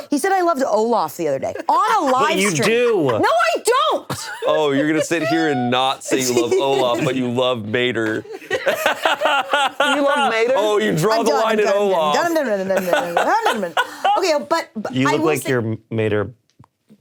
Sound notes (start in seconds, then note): 8.1 laughing; 12.5 humming